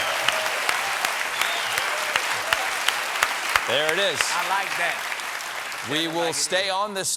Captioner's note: cheers and applause